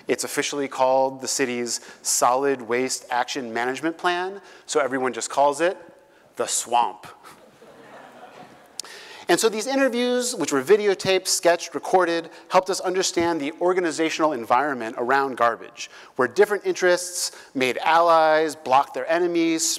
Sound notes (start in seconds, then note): 7.3 laugh